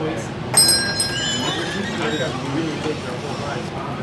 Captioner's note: doorbell rings